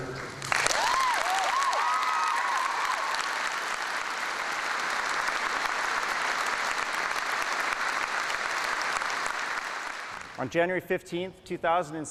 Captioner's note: applause and Cheering